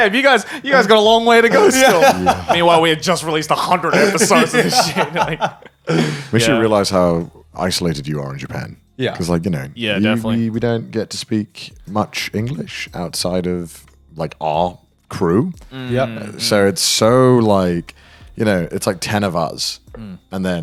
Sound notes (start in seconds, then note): 1.4 laughing